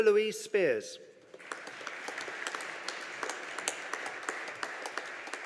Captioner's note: audience applauding